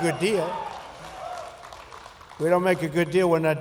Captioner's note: cheers